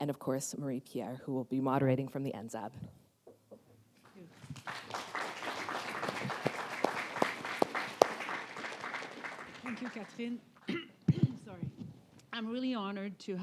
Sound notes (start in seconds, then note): 4.0 applause